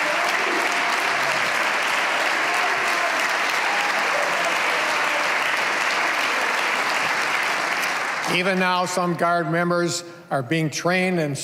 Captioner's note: cheers and applause